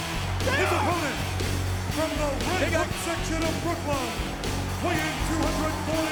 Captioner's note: announcer speaking faintly off mic